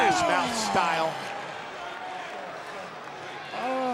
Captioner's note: audience chattering